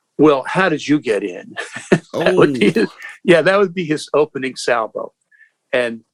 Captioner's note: laughter